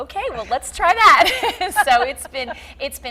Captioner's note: laughing